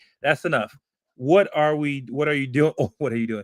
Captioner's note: laugh